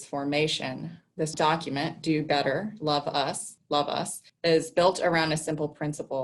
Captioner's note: inflection changes